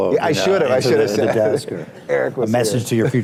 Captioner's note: laughs